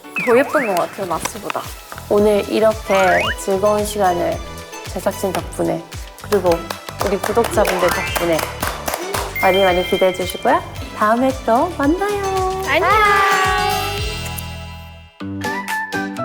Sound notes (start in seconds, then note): 6.3 applause of gratitude